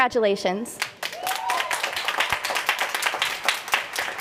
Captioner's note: applause